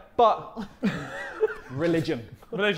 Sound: Sidemen laughing

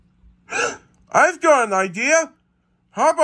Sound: gasps

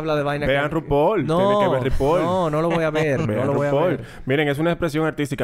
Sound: laughs

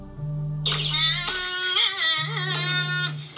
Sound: alarm

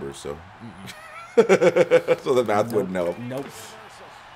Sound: laugh

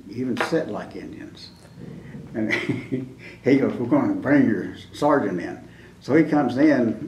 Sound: laughs

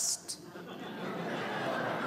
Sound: laughter

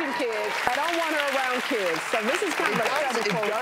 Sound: crowd applauds

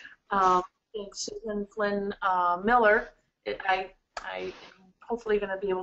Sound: distorted audio

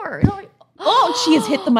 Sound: both gasp

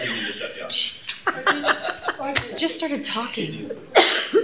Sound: laughter

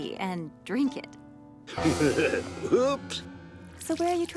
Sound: chuckles

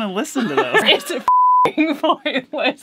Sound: laughing

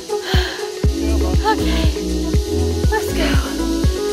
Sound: heavy breathing

